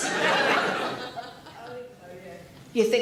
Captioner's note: audience laughs